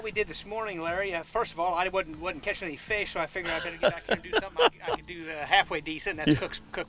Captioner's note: laughing